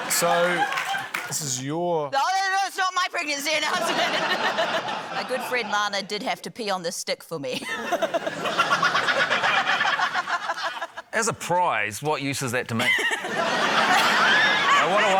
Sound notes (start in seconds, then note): 3.6 laughs; 3.6 laughter; 7.6 laughs; 10.4 laughter; 12.8 laughter